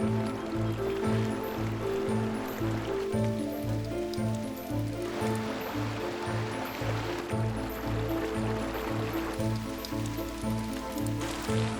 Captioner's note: running water